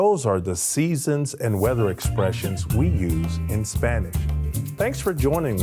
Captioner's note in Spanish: hablando en español